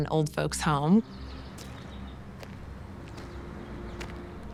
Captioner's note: birds chirping